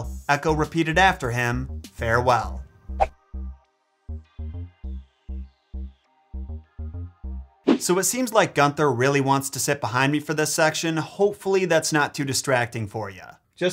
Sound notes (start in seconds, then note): 2.9 chill music; 2.9 transition whooshes